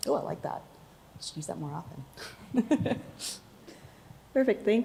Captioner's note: laughs